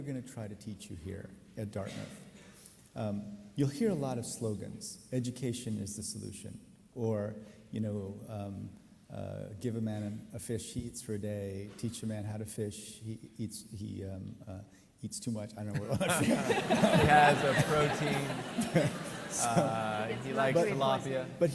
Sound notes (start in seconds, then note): 15.8 laughs; 15.8 audience laughs